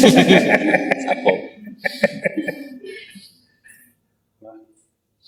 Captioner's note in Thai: เสียงหัวเราะ